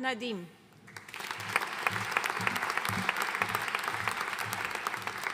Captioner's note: audience applauding